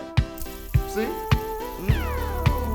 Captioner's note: nondescript whirring noise